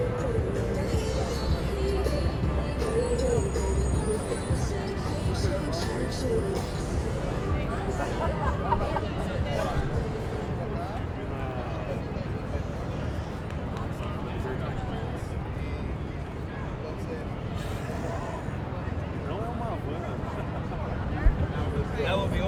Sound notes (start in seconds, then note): 0.3 upbeat music; 8.0 person laughing